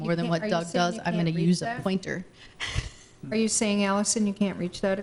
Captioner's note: laughs